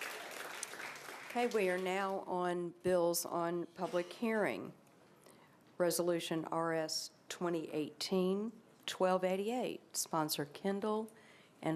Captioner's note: applause